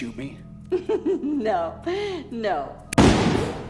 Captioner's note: laughs; shot blasts